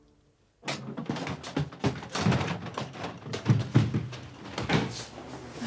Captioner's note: door creaking opening